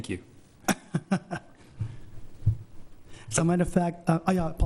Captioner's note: laughs